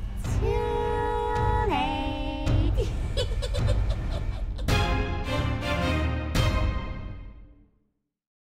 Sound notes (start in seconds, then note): 2.7 giggling